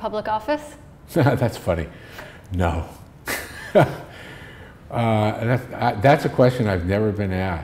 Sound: chuckle

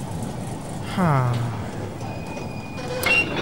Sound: depressed Sigh

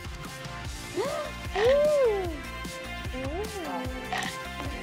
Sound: eating

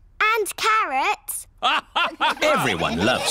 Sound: all laugh

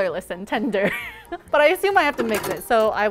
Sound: laughing

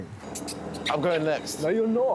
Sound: lips smack

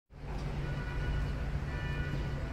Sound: city Noises

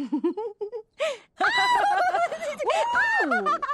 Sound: laughing

